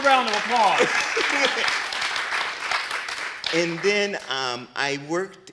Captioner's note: people clapping